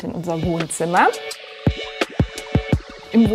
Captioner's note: spherical sounds